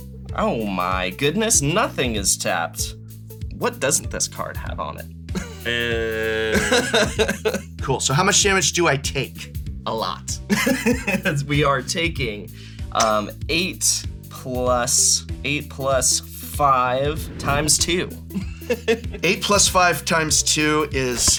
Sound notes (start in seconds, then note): 6.4 chuckles; 10.5 laughs; 18.3 laughs